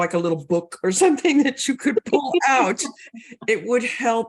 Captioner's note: both laugh